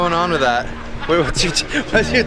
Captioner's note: laughing